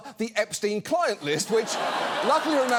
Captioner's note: studio audience laughs